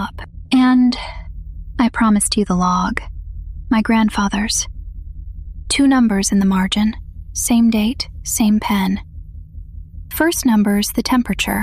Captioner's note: breath